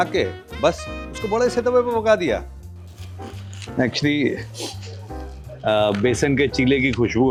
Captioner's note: nasal sound